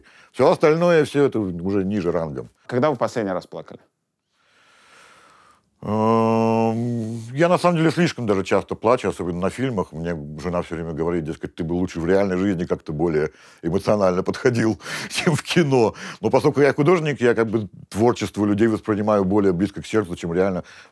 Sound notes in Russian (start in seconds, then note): none